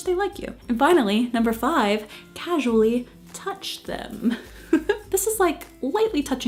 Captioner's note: giggles